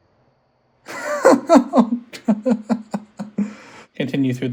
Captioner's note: nervous laughter